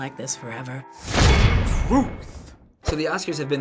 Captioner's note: clang!